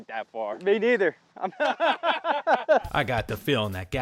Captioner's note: laughing